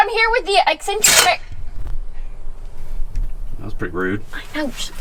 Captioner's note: metal slams